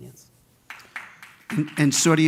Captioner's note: clapping